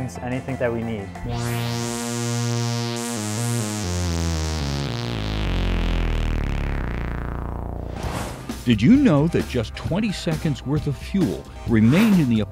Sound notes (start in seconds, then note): 1.2 sound Effects